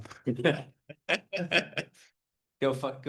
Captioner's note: member laughing